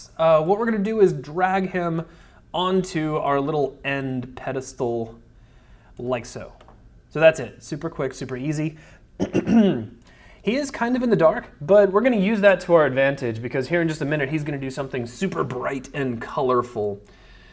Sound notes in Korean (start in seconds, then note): 9.2 기침